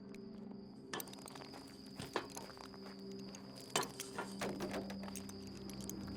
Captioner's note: rattling